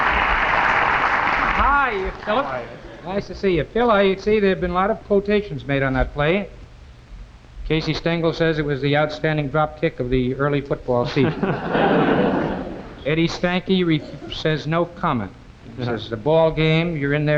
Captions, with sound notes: - HIYA PHILLIP, NICE TO SEE YOU. PHIL I SEE THERE HAVE BEEN A LOT OF QUOTATIONS MADE ON THAT PLAY. CASEY STENGEL SAYS IT WAS THE OUTSTANDING DROP KICK OF THE EARLY FOOTBALL SEASON. (AUDIENCE LAUGHING) EDDIE STANKY SAYS NO COMMENT. HE SAYS THE BALL GAME, YOU'RE IN THERE,